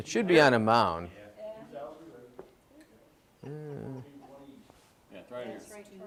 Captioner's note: chatter